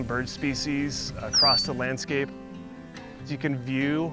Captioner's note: bird peeping